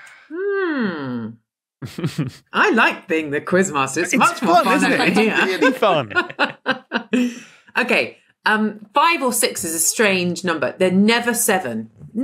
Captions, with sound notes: Hmm. I like being the quiz master. It's fun, isn't it? It's really fun. (both laugh) Okay. Five or six is a strange number. They're never seven.